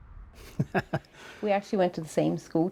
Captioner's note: laughing